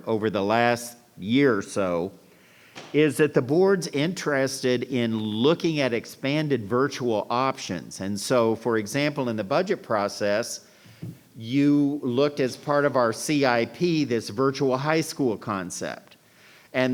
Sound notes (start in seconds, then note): none